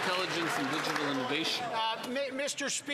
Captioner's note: some Applause